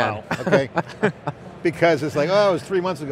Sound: everyone laughs

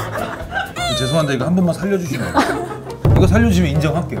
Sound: begging

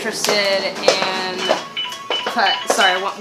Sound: phone alarm goes off

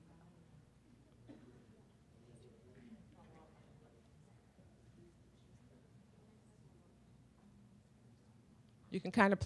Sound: silence

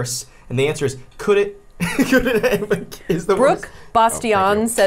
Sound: laughs

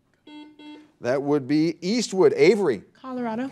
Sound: buzzer dings

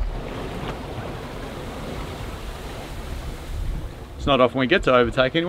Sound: water splashing

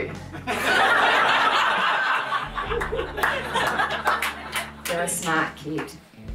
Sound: crowd laughs loudly

